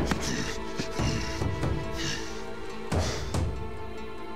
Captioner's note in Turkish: Nefes sesi